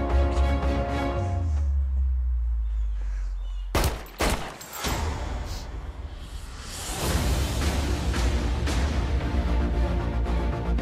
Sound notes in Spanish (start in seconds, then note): 3.7 Disparos